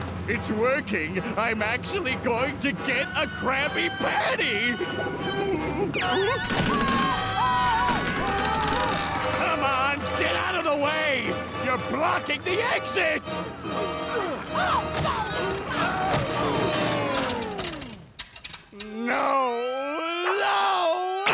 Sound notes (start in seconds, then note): 13.7 all grunting; 16.8 engine dies